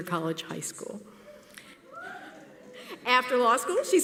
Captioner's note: whooping from audience member